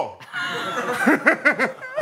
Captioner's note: laughs